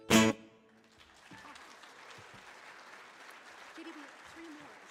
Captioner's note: audience clapping